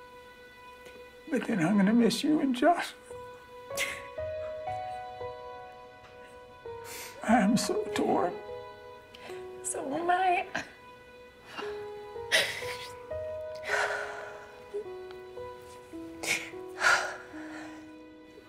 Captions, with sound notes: But then I'm gonna miss you and Joslyn. (Grace crying) I am so torn. - So am I.